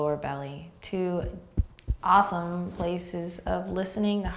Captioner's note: patting